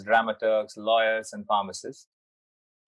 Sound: none

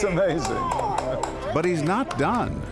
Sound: claps

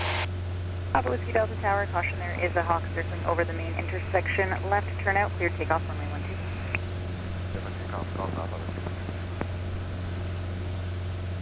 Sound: ATC chatter

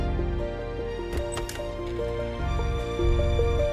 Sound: door opens

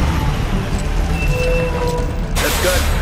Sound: brakes screech

